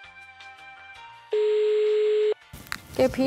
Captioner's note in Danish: telefon ringer